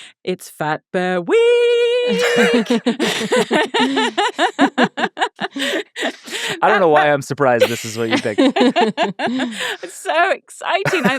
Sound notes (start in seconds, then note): 2.1 everyone laughing